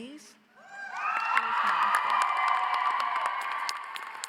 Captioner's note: audience cheers